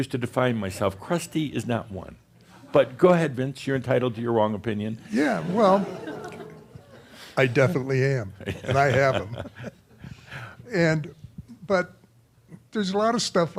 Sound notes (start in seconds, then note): 5.1 more chuckles; 10.3 they chuckle